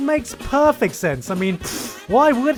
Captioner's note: pfft